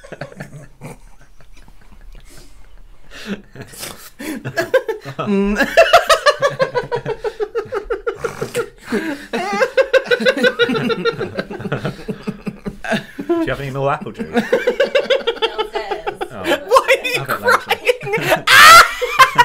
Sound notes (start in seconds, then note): 0.1 silent Crying; 5.7 hysterical